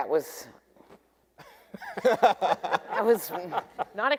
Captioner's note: debaters laughing